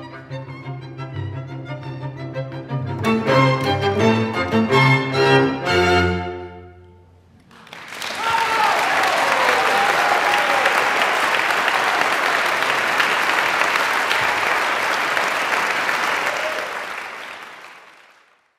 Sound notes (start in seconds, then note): 7.4 applause; 18.3 silence